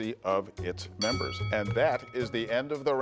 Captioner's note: bell dings